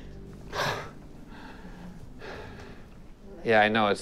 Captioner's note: man exhales sharply